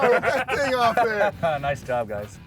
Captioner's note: laughing